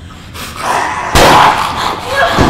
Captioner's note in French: Connor gronde